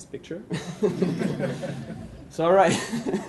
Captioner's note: laughs